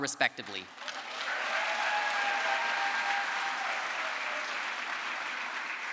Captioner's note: crowd applause